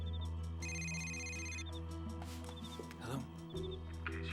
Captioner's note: cell phone rings